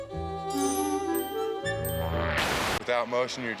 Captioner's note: bell dinging